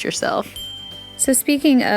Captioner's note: ding